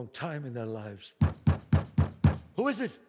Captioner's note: knocks